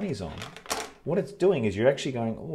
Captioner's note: sunglasses tapping